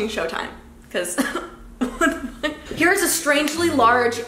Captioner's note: laughs